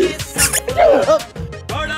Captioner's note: Squeaks; Tara gasps